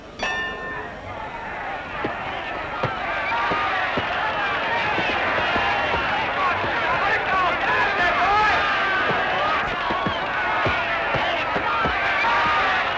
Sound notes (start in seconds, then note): 0.1 bell ringing; 2.0 cheering; 5.5 shouting